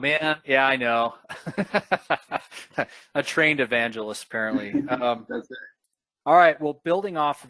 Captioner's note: laughing